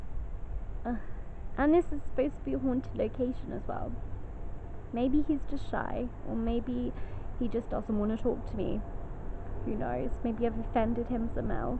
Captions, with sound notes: (Sighs) and this is supposed to be a haunted location as well. Maybe, he's just shy or maybe he just doesn't want to talk to me. who knows, maybe I have offended him somehow